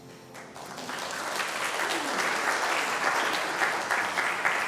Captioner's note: audience clapping